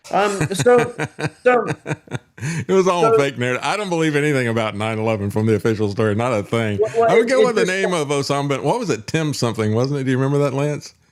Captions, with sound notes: (Laughing) It was all a fake narrative. I don't believe anything about 9-11 from the official story, not a thing. I would go with the name of Osama, what was it, Tim something, wasn't it? Do you remember that Lance?